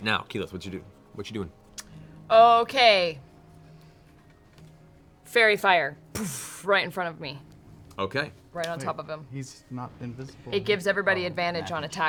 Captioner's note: poof